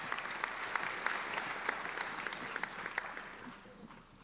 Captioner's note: applauding